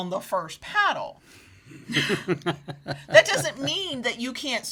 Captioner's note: laughs